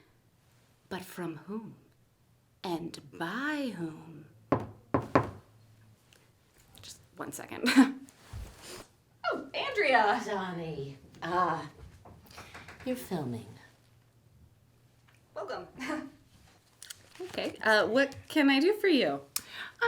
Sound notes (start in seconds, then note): 4.5 knocking On The Door